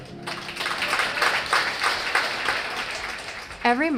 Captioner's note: audience applauds